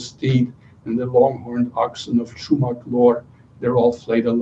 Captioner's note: non-english speech